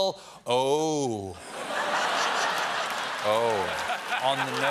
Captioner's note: laughter